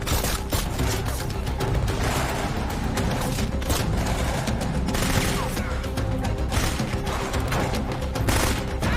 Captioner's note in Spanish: Disparos